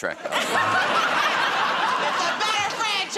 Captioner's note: laughter